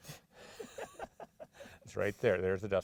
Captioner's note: both laughing